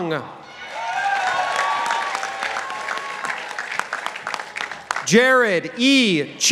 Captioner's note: participants applauding